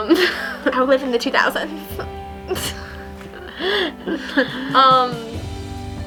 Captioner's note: laughs